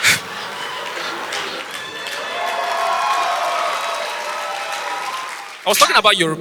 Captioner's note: audience applause